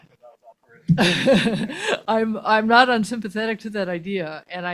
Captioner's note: laughs